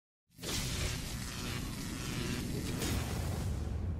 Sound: graphics zapping

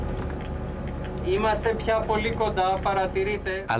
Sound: speaks Greek

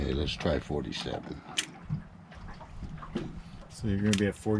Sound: click

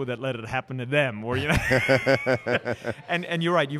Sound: laughs

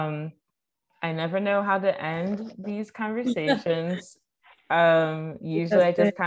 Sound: all laughing

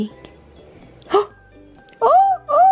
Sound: gasps

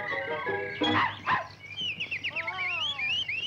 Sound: Pudgy barks

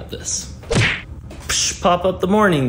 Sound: cartoon punch sound

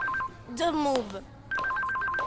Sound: phone ringing

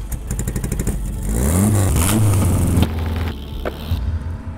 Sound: engine rumbling

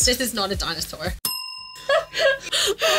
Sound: bell dinging; laughing

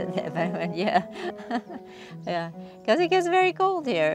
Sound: laughs

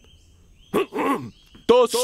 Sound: clears throat

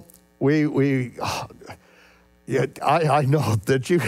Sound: exhales loudly

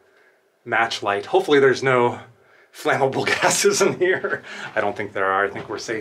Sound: laughter

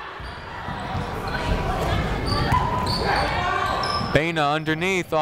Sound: people shouting in the crowd

